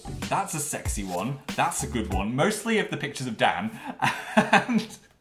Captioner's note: laughs